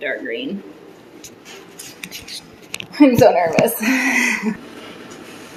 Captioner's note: nervous chuckle